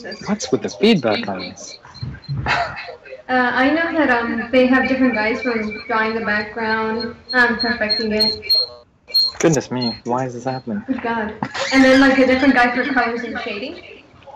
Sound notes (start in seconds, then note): 10.4 feedback